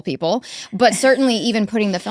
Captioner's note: laughs